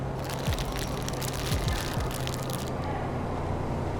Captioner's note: bag crinkles